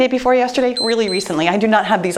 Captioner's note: timer beeps